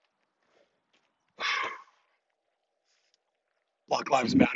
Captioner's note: sighs